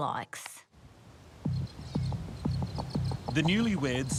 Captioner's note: insects chirping